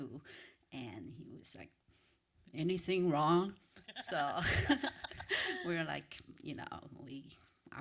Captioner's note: laughter